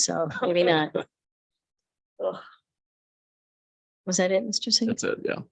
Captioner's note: people chuckle